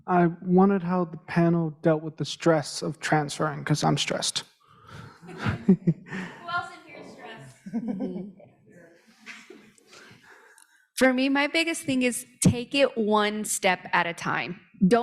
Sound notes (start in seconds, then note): 5.0 laughs